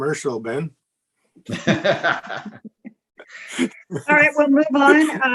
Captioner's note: all laughs